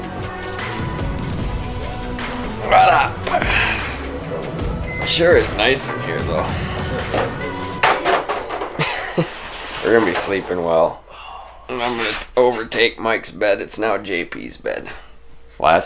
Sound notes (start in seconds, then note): 0.0 upbeat music; 8.5 chuckles